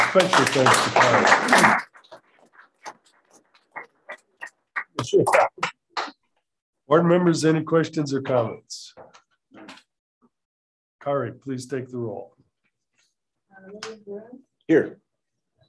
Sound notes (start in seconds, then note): 8.8 silence